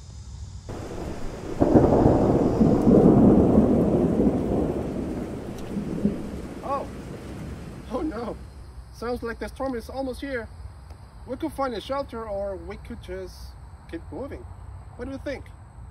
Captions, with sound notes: [Thunder] Oh, oh no! Sounds like the storm is almost here. We can find a shelter or we could just keep moving. What do you think?